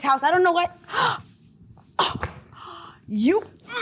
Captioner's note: gasp